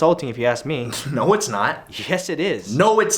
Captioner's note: scoffs